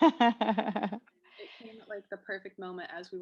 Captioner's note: laugh